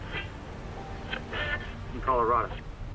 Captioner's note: radio tuning